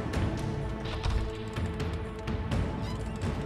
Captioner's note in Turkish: Kapı açıldı